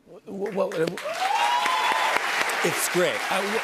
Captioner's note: cheers and applause